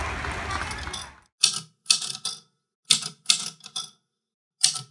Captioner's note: typewriter clicks